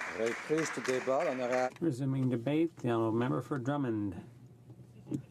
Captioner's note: applause